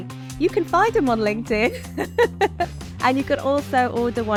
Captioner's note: laughs